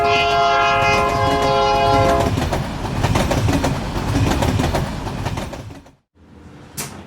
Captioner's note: train tracks